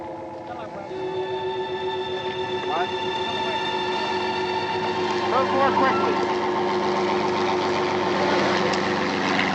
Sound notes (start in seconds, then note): 4.8 helicopter whirring